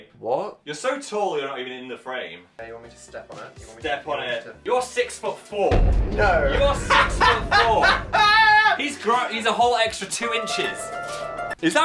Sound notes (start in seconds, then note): 5.7 thud booms; 6.7 laughing